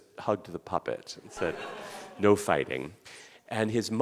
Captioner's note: audience laughing